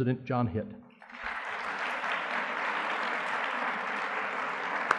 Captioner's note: audience clapping